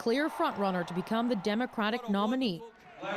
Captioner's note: cheers and applause